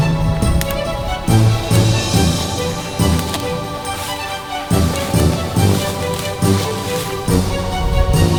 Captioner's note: sound of brush being walked on